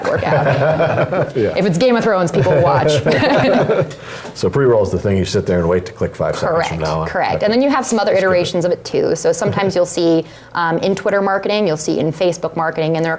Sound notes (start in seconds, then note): 0.0 laugh